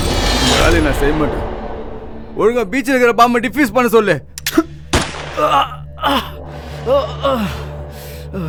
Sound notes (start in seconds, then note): 4.9 gunshot